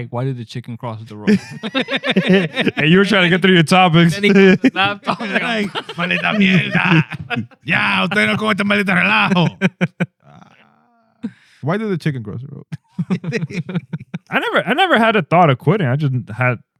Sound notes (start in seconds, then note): 1.7 laughter; 5.9 speaking Spanish; 12.7 laughter